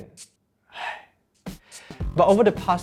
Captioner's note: sighs